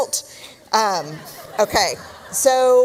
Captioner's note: laughter